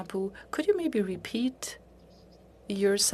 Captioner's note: speaking in French